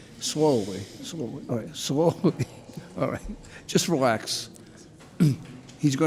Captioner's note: laughs